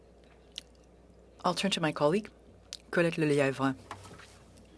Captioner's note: speaking French